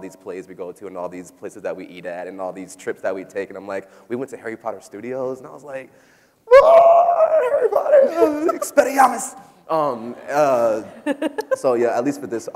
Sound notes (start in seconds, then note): 6.4 vocalizes excitedly; 10.4 people laughing